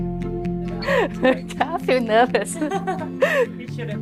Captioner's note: laughing; laughter